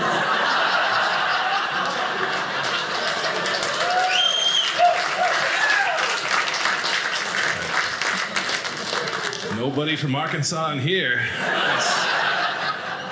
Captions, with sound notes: (audience laughing) (audience applauding) Nobody's from Arkansas in here. (audience laughing)